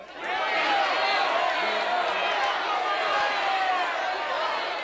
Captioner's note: crowd shouting